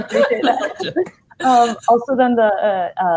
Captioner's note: laughing